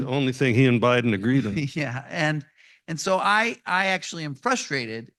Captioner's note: laughs